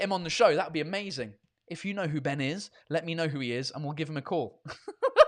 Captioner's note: laughs